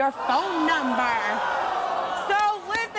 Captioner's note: audience groaning